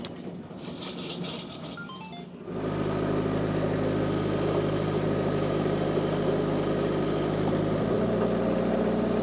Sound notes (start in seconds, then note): 1.8 phone chiming; 2.4 forklift rumbling